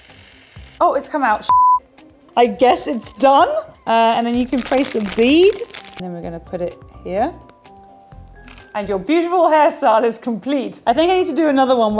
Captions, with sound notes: Oh, it comes out (beeps) I guess it's done? And then you can place a bead, and then we gonna put it here, And your beautiful hairstyle is complete. I think I need to do another one,